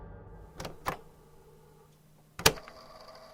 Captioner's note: click